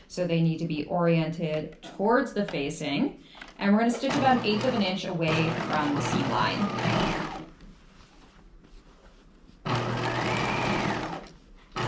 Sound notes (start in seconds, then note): 6.5 sewing machine whirring